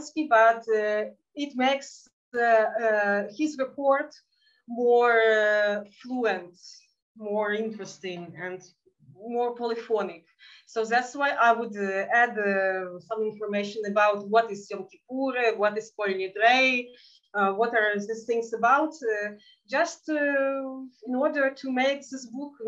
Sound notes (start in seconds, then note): 14.5 speaking in Yiddish